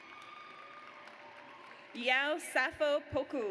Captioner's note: audience cheers